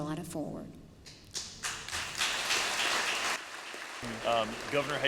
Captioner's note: applause